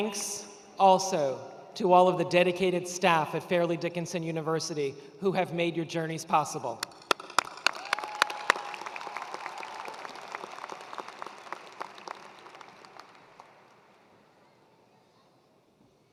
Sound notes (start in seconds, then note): 6.8 attendees applauding